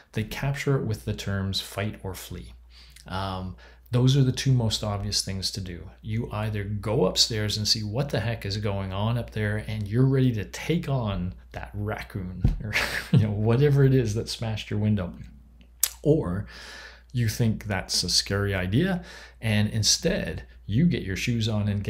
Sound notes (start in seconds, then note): 12.6 chuckles